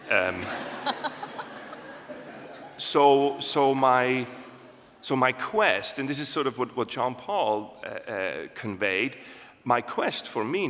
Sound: laughter

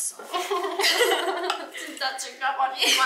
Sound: laughing

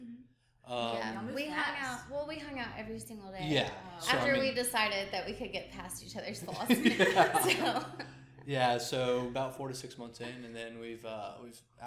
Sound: laughs

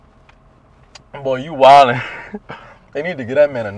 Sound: Sam laughing; laughing

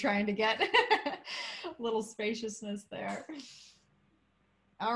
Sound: laughter

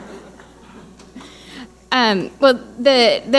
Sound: audience laughing

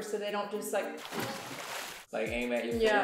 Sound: water splashing

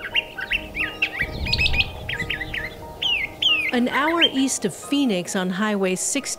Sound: bird chirping

